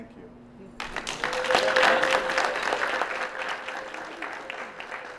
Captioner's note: applause